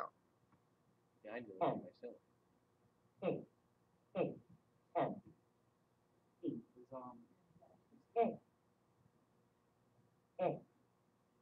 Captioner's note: Apple software speaking voice reading letters of the alphabet